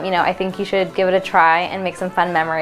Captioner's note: none